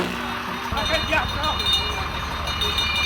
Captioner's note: bell jingling